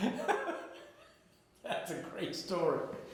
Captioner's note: interviewer laughing